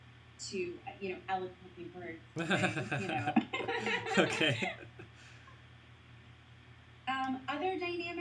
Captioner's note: both laugh